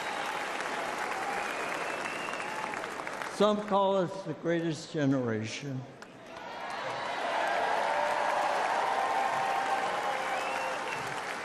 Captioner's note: applause